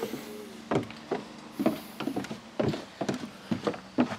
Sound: footsteps tapping

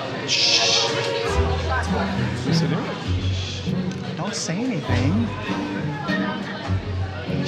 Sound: indistinct crowd noise; shushing

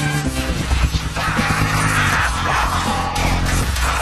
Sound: emmet screams

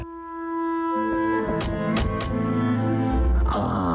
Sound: car door noises

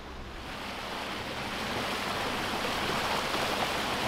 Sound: water rushing

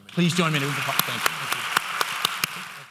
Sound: audience applause

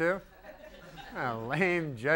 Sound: giggles from audience

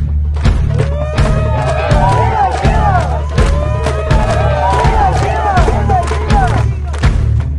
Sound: Participants cheering Shiva! Shiva! Shiva! Shiva! Shiva! Shiva!

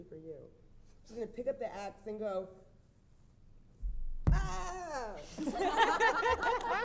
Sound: screams

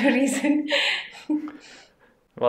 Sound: laughs

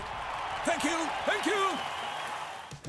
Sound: crowd cheering

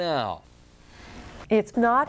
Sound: woman takes a breath

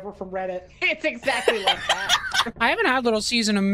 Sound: laughs

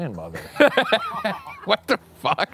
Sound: laughing

